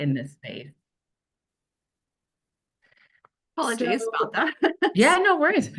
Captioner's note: chuckles